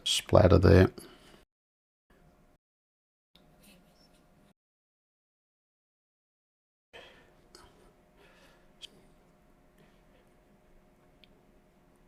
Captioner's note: silence